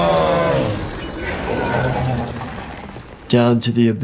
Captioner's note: Depth Dweller warbling; debris scattering